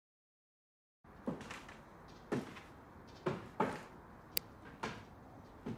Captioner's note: footsteps tapping